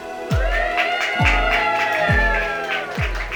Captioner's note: clapping & cheering